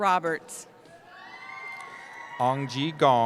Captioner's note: cheering